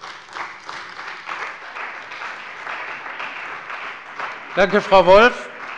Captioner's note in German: Beifall bei der CDU und dem BÜNDNIS 90/DIE GRÜNEN